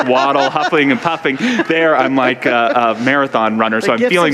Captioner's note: audience laughter